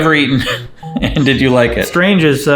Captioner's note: giggling